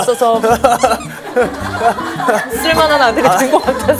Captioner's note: gulp gasp